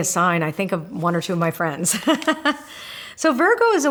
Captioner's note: laughs